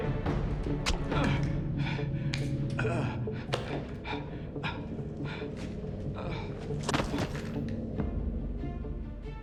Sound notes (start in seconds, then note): 0.2 guard groaning; 6.1 thud